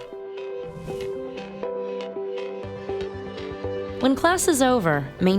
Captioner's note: air whooshing